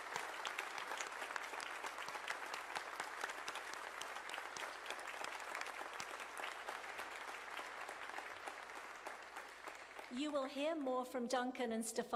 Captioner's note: applause